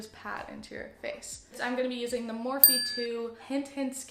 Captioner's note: ding